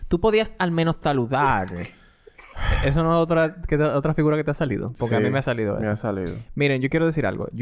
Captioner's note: laughs